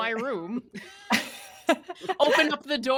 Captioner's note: laughing